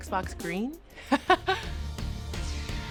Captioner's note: laughs